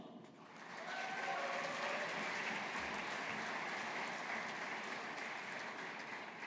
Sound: audience applauding

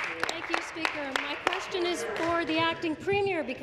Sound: applause

